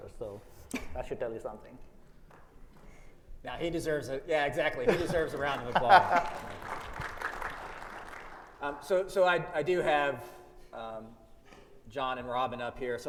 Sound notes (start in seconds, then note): 4.9 audience applauds